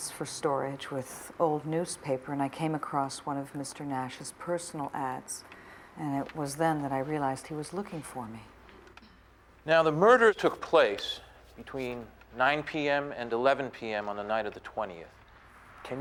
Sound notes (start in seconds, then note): none